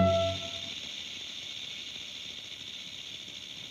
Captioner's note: snake rattles